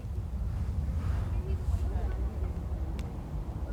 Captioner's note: wind blowing